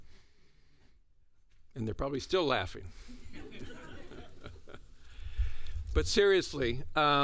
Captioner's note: laughter